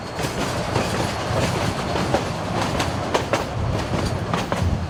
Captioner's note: train chugging